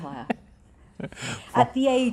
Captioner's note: laughs